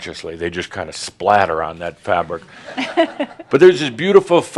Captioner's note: a few chuckles